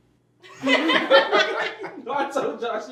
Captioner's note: group laugh